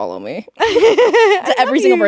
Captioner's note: both laughing